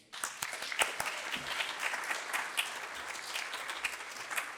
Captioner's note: applause